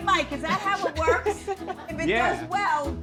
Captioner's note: people laughing